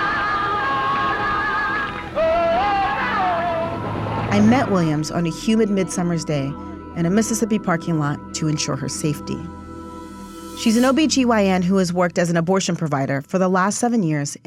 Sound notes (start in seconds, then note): 0.0 singing; 0.0 clapping